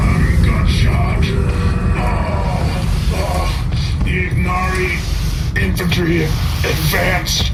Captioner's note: sliding across floor slowly